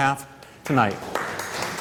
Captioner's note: applause